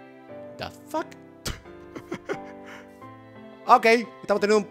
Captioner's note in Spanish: ríe